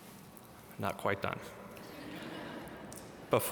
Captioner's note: audience laugh